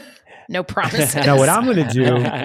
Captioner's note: laughs